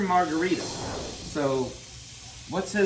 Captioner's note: screen whooshes